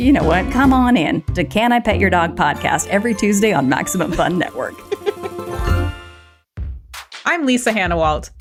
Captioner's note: laughs